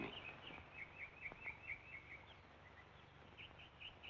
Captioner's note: birds chirping